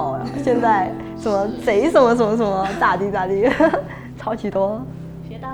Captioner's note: northern dialect